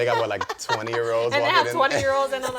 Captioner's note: laughter